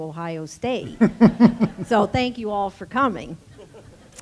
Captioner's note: laugh